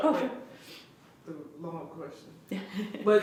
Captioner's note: laughs